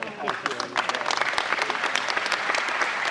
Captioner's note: applause